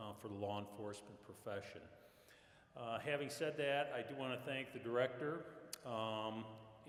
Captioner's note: none